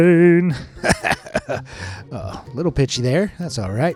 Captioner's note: coughs